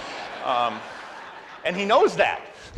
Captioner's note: audience laughs